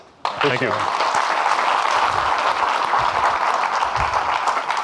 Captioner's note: audience clapping